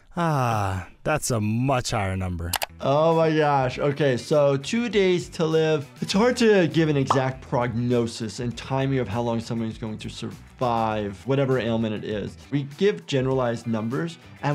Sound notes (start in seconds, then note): none